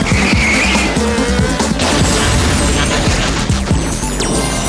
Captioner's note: tires squealing; crash